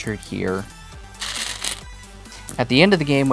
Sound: stones rattling

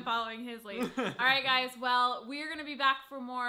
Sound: laughing

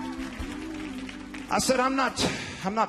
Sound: audience members applauding

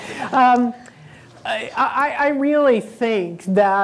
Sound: laughing

